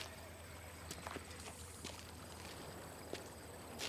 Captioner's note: horse neighs